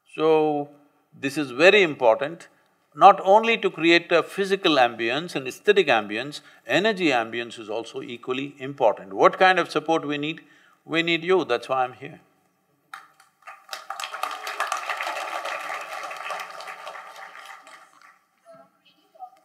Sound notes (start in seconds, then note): 12.9 applause